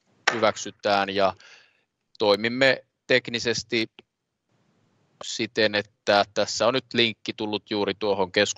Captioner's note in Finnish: nuijan kopautus